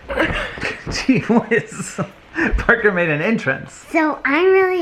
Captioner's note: laughs